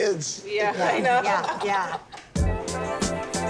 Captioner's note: laughs; upbeat music